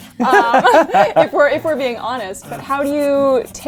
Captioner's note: laughs